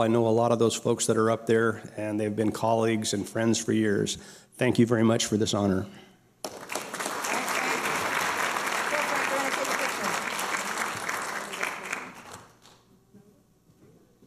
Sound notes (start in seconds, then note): 6.4 applause; 8.8 people talking